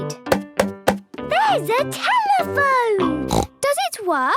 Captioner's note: snorts